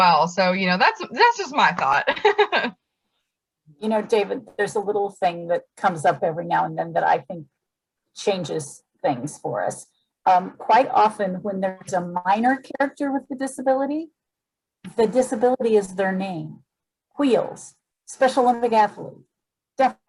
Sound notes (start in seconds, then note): 1.8 laughs